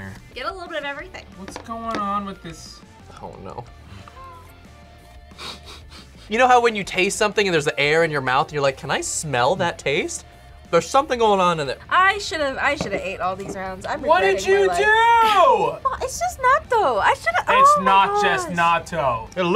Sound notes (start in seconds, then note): 5.4 laughs